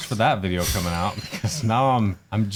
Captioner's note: people laughing